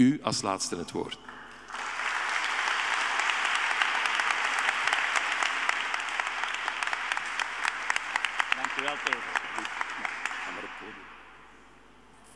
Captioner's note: audience applauding